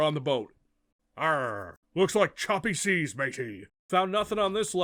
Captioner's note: doing a pirate voice